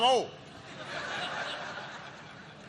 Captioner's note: laughter